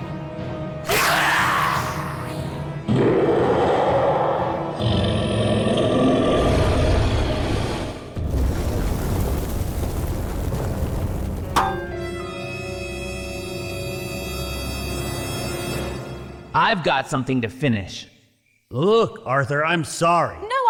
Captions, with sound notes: (Scream) I've got something to finish. Look, Arthur, I'm sorry.